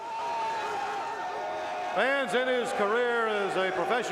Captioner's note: crowd cheering